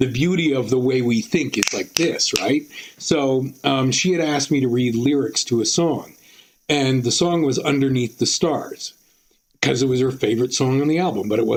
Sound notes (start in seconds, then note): 1.6 snapping